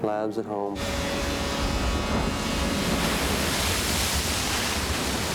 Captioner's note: water crashing